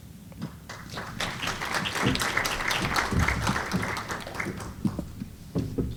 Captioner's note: applause